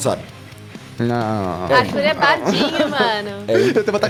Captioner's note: whines